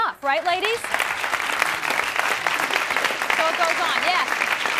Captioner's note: clapping